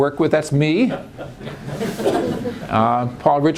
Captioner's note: laughter